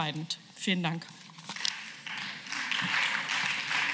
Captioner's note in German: Beifall